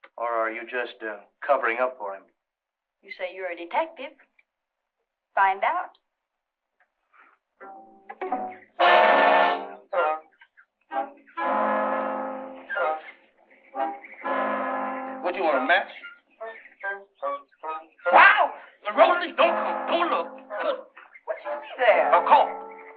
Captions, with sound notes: Or are you just covering up for him? You say you're a detective. Find out. [dramatic orchestral music] What you want, a match? [screams] Now Rosie, don't come, don't look. - What you see there? - A corpse.